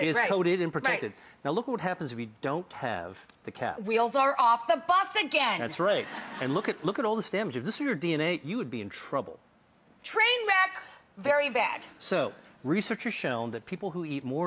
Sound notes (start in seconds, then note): 5.9 audience laughs